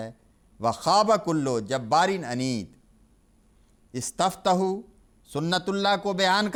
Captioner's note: Arabic